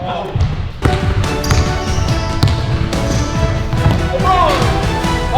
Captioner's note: ball bounces; upbeat orchestral music